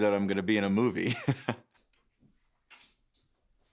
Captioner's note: laughs